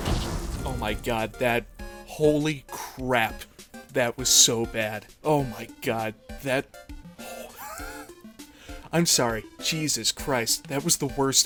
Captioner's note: wheeze